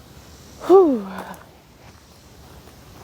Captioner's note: takes another deep breath